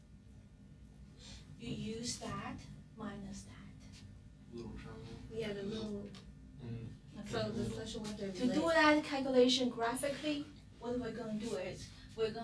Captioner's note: murmur